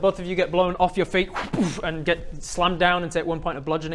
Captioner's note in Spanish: whbooof